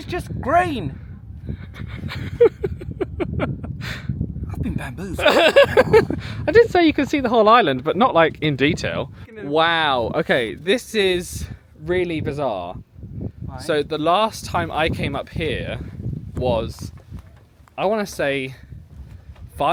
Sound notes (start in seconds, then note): 1.8 laughing; 1.8 wind whipping; 4.6 laughing